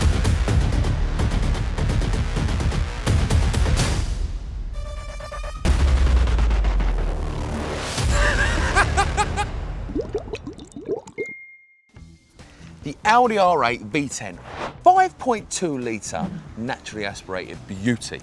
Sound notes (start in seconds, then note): 0.0 heavy music; 8.1 laughter